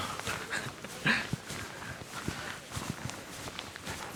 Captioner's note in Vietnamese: tiếng cười